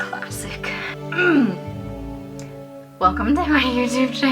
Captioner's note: clears throat